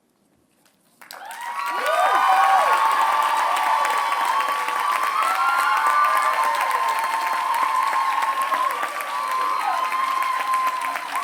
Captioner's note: applause